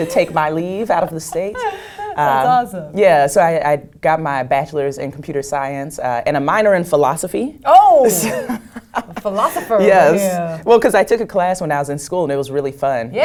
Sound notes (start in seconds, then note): 1.0 laugh; 8.0 laugh